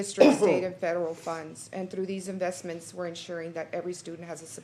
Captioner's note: clears throat